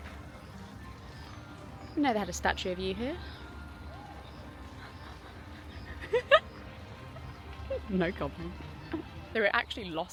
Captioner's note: laughing